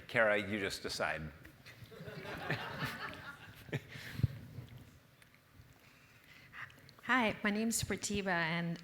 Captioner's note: laugh